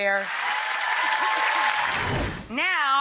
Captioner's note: audience applause